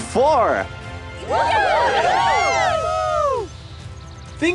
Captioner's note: all cheering